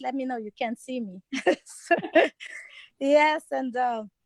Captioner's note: laughs